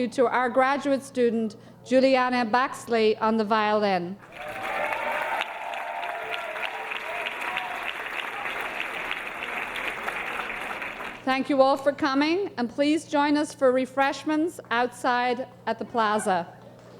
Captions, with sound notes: to our graduate student, Julianna Baxley on the violin. (audience cheering) Thank you all for coming and please join us for refreshments outside at the plaza.